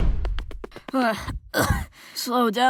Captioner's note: panting